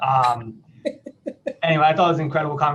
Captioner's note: laughs